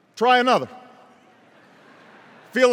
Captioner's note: laughter